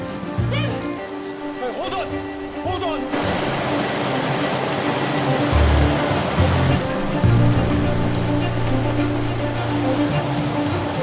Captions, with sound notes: Jim! - Hold on! Hold on! (water rushing) (dramatic orchestral music)